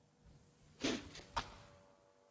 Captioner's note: crack; spits